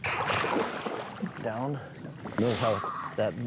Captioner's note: water splashes